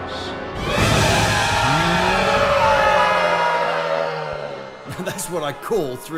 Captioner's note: roar